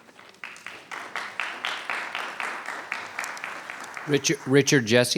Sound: attendees applauding

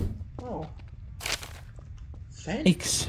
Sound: paper sounds

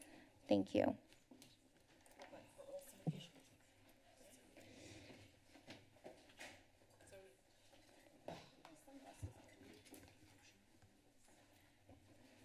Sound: background conversations

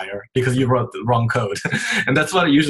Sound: laughs

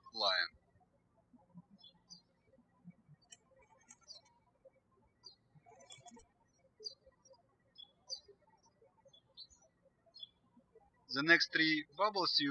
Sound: birds chirping

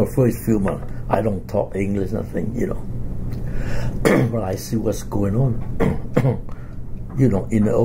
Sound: coughs

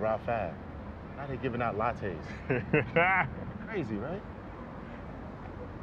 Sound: laughter

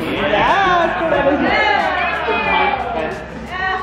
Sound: all cheering

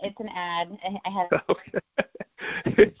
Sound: laughing

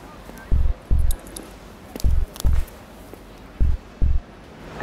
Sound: keys jingling

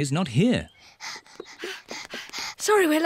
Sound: panting

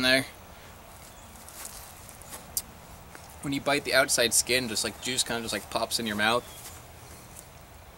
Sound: takes another juicy bite

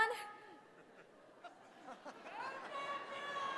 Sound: laugh; applause

